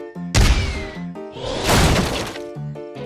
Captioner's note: wood crunches